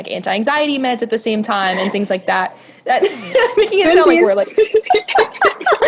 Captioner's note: laughs